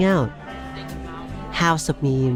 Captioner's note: background talking noises